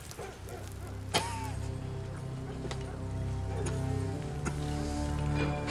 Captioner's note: coughing